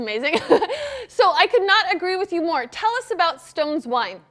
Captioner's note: laughs